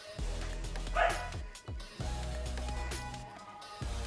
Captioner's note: dog barks